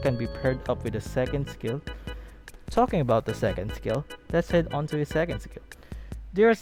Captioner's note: speaking